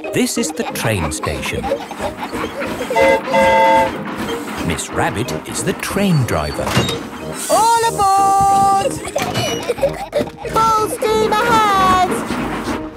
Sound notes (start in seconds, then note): 2.9 train whistle toots; 8.1 giggling